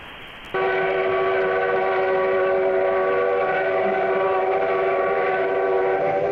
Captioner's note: train whistling